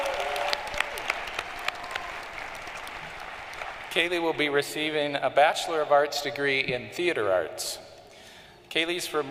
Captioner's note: cheering and applause